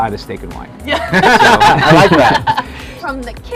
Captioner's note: laughter